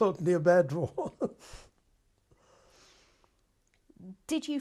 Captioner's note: laughs